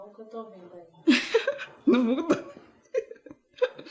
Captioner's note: laughs